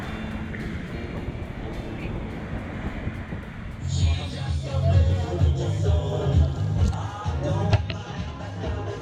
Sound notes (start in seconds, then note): 1.8 waves gently crashing; 5.1 restaurant ambiance